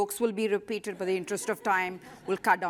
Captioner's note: laughter